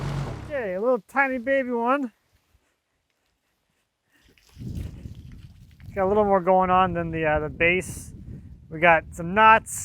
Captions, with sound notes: Okay, a little tiny baby one. (water sloshing) Got a little more going on than the base. We got some knot,